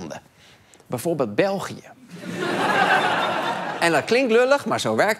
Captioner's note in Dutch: gelach